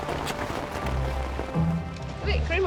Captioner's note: gentle music; mud squelches; rain pours down